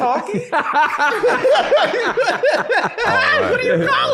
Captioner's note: laughing